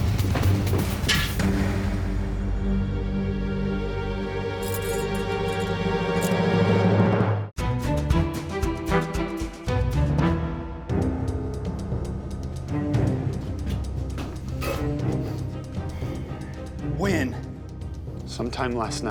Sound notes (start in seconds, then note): 4.6 keys jingle; 15.0 sighing